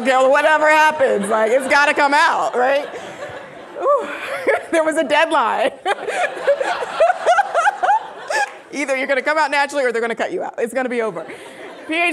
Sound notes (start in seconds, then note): 5.5 laughing